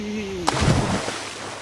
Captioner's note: splash